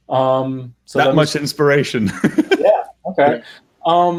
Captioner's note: laughs